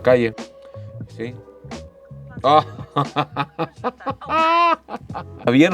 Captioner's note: laughter